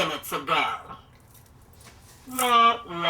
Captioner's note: laughs